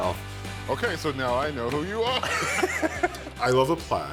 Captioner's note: chuckles